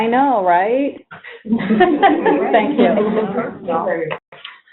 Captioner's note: laughs